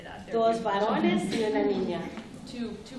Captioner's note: speaking spanish